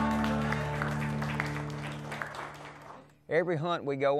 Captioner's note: exciting music; applauding